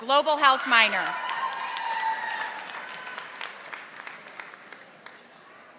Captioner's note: audience applauding